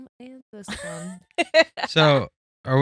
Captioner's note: laughing